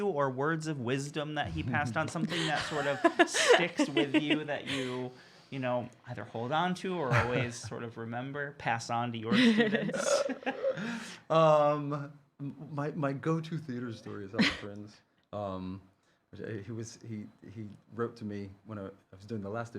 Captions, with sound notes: or words of wisdom that he passed on, something that sort of sticks with you that you either hold on to or always remember, pass on to your students? (chuckling) - My go-to theater story is often, he wrote to me when I was doing the last Evita,